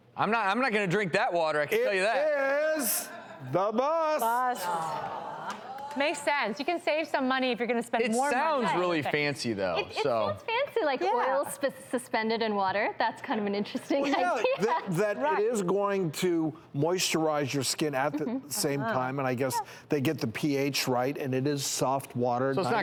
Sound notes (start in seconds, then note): 4.2 audience groaning